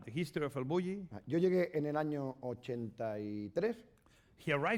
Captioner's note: speaking spanish